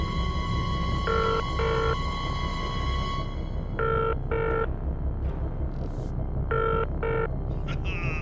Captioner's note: suspenseful music; dial tone; Yardie on phone